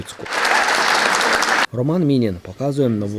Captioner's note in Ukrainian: Оплески